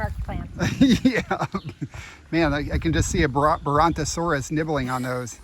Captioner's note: laughing